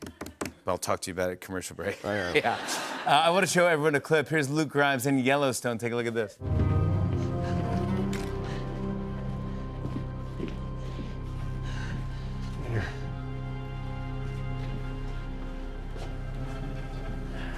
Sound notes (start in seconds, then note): 1.9 laughter